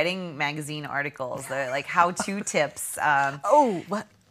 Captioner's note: laughing